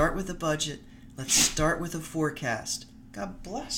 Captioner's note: dog sneezes